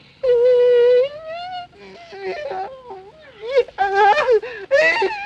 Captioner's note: moaning